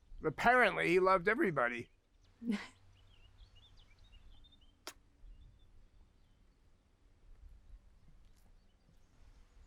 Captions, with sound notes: Apparently, he loved everybody. (birds chirping)